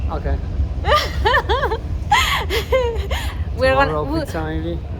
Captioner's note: laughs